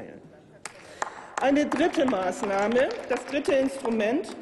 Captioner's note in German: Applaus